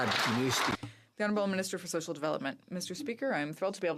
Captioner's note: some Applause